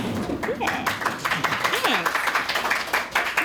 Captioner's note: applause